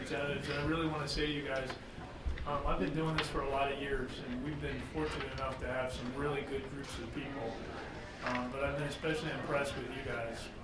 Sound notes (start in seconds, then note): none